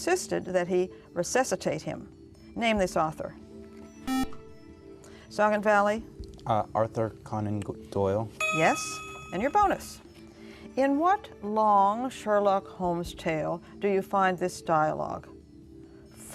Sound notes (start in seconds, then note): 4.0 buzzer